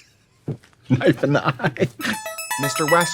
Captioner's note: laughing; bright electronic music